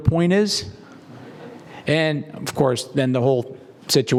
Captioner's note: laugh